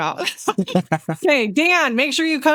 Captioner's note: laughing